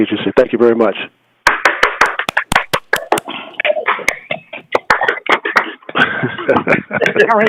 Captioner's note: laughter; applause